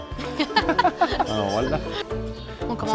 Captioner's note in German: Sie lachen